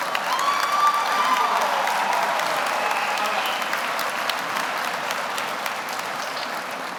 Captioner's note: audience cheers; audience applauds